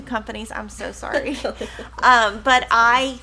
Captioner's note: laughing